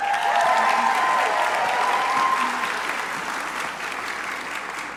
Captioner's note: crowd applauding